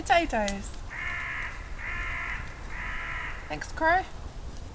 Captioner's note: crow cawing